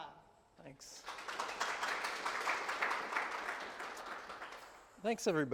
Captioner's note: attendees applaud